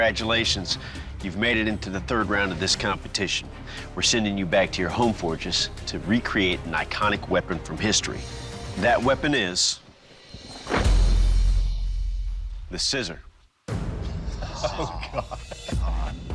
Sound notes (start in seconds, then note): 14.2 laughter